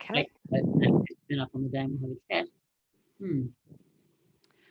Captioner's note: speaking faintly